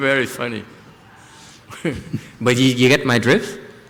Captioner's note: laughter